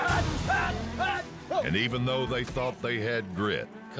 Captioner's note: shouting